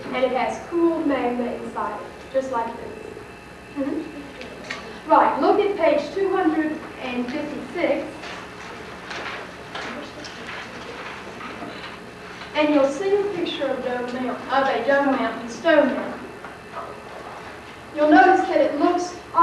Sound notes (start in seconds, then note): 8.2 sounds of pages turning